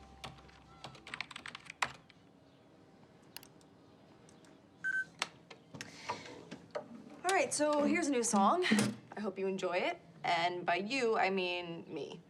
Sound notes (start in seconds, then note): 4.8 beeping